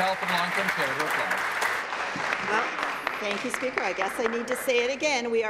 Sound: applause

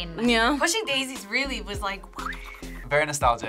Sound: whistles

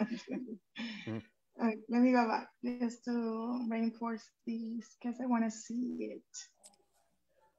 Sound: chuckles

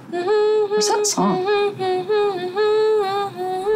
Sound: hums

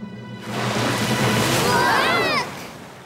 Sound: screaming

